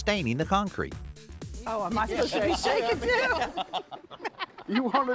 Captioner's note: all laugh